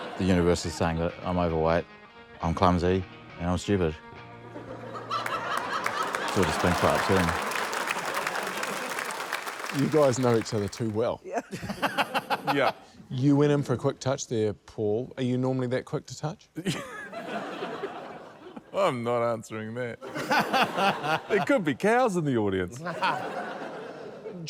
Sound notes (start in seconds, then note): 4.5 laughter, applause; 11.2 laughter; 16.6 laughter; 20.0 laughter; 23.8 laughter